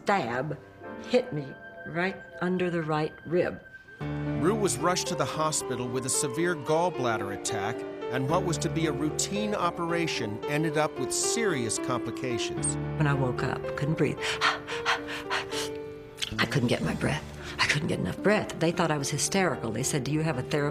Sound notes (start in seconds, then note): 14.2 panting